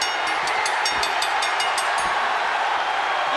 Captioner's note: bell ring